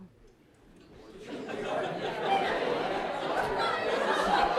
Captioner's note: audience laughs